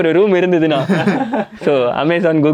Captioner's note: group laughs